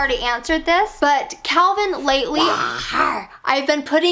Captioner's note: roaring